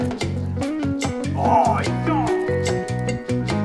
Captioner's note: he shouts playfully